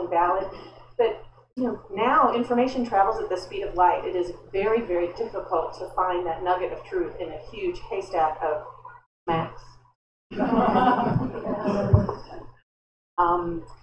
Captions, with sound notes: valid, but now information travels at the speed of light - it is very, very difficult to find that nugget of truth in a huge haystack of Shmacts. [laughter]